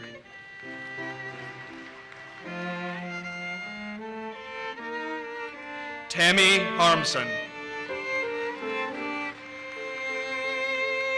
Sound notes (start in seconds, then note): 0.3 audience applauses; 7.9 audience applauses